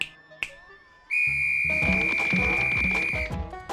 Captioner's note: snaps fingers; whistle blows